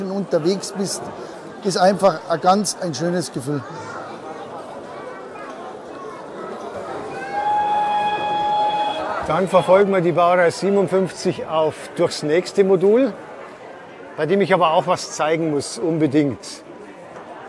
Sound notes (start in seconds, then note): 7.2 locomotive whistle